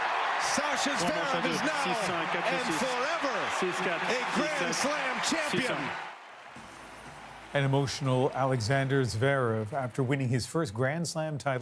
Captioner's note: applause